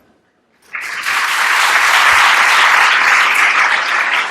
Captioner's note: applause